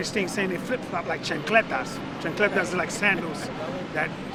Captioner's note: speaking in foreign language